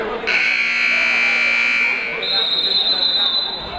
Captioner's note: buzzer; whistle